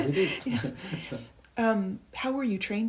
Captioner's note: chuckles